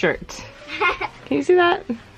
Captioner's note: laughs